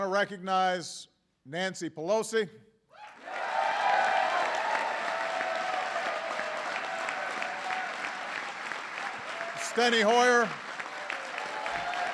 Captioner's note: applause